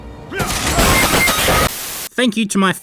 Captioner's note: Fortnite elimination sound